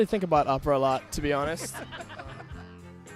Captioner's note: laughter